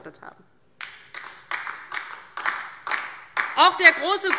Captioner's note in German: Beifall DIE LINKE